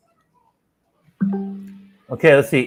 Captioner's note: tone